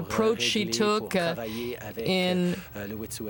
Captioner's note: speaking french